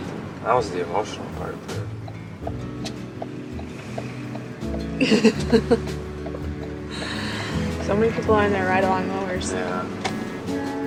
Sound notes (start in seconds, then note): 1.6 turn signal clicking; 4.9 chuckling